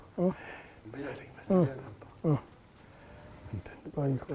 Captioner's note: whispering